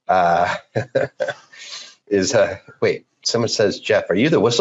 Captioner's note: laughs